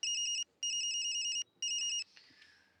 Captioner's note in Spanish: Suena el teléfono